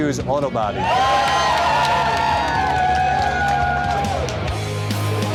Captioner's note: cheering